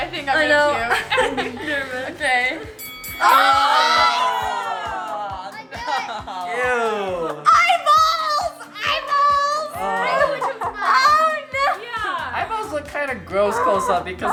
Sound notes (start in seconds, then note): 3.2 family yelling